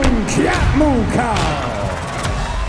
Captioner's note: dramatic thudding; film reel rewinding